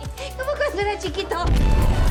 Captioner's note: in Spanish